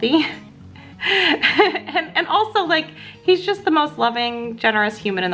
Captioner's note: laughs